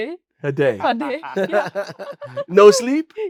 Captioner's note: group laughs